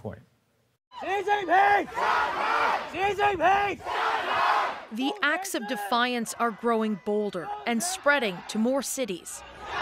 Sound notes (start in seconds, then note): 6.5 chanting